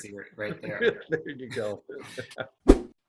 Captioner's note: laughs